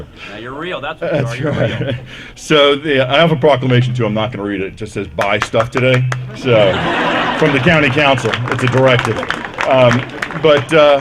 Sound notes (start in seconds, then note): 5.7 applause; 6.4 laughter